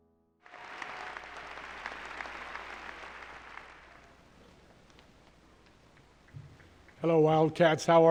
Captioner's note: applause